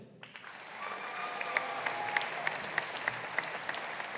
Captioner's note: audience applauding